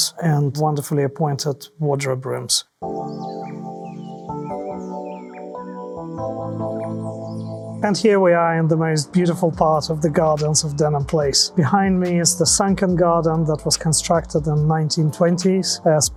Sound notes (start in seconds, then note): 2.8 electric piano music; 2.8 birds chirping